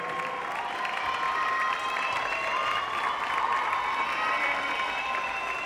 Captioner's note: audience cheering